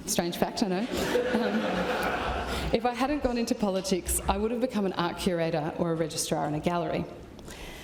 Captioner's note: laughter